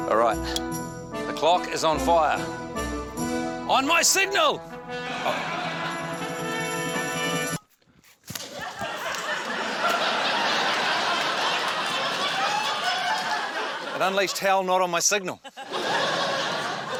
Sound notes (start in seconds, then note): 5.8 music soars; 7.7 music stops; 8.4 laughter